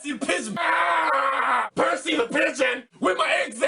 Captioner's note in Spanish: gritar